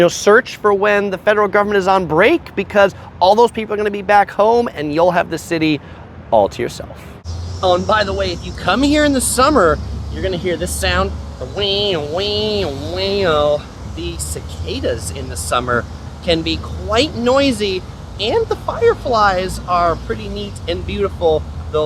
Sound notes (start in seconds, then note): 11.2 imitates cicadas